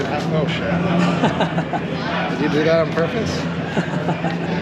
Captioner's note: laughs